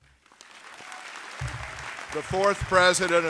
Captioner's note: audience applauding